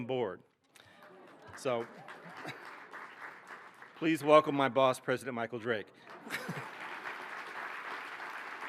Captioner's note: applause